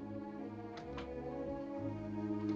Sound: door Closes

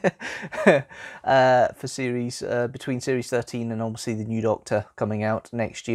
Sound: laughs

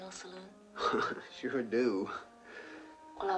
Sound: chuckles

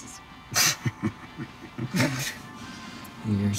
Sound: Andrew laughs; Nick laughs

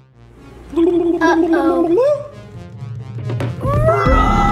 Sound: ghost sounds

